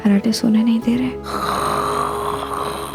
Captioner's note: snoring